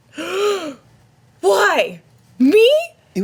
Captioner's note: gasps